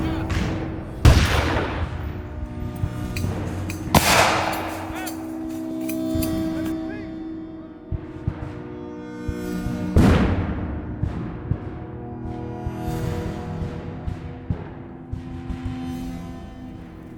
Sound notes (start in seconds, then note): 2.6 gunshot cracking continues; 10.0 cannons booming